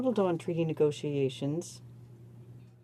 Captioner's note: speaking French